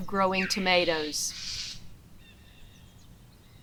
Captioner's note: loud bird call